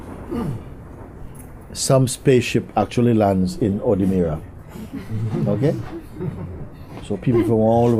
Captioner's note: laughter